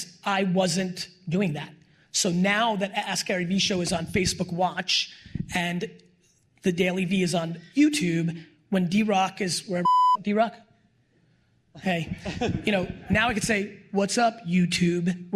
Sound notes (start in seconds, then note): 9.8 beep